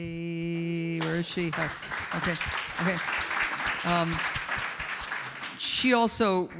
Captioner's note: audience applauds